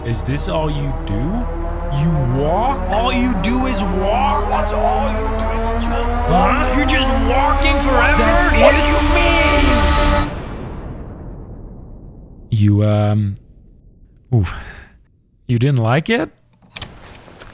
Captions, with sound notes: (Multiple voices being angry about walking) … You, uhh-... You didn’t like it?